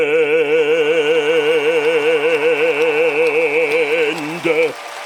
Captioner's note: cheering